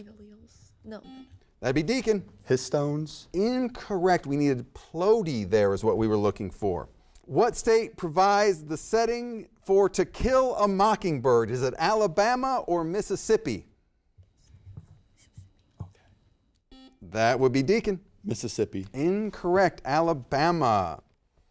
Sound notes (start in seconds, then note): 16.7 buzzer beeps